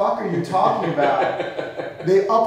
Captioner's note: laughing